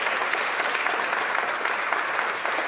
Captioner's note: applause